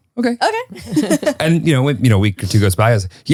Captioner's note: laugh